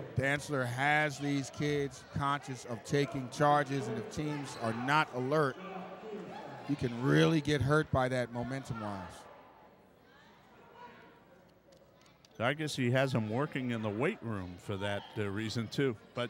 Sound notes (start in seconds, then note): 9.0 yelling